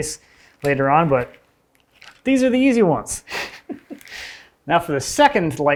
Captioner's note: chuckles